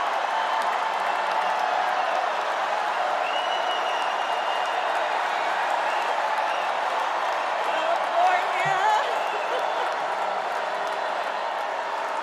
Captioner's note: cheers and applause